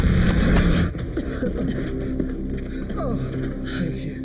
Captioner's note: dramatic music; Larry panting